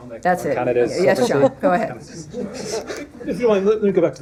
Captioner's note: laughter